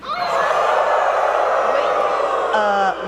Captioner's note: audience howls